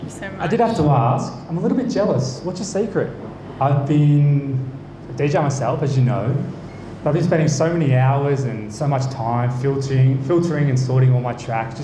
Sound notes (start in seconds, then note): none